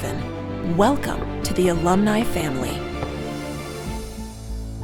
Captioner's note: fireworks crackling; fireworks crackling; gentle music